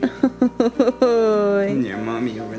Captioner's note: laughing